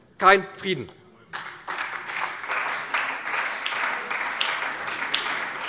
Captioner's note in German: Beifall bei der SPD